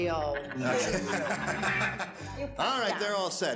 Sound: audience laughs

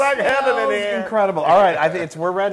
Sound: laugh

